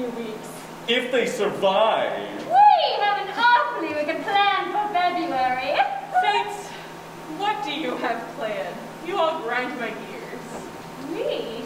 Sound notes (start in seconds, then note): 6.0 cackles